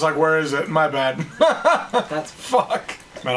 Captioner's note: laughs